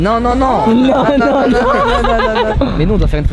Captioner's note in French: rires